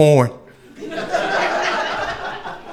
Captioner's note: crowd laughing